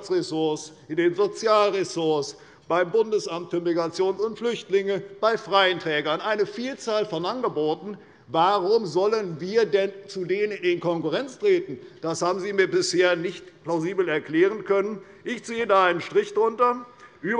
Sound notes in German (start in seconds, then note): none